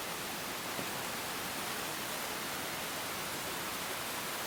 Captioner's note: pattering of rain